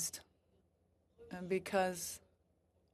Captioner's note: speaking french